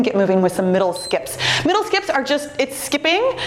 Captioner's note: timer beeps